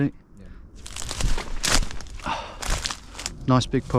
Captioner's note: leaves rustling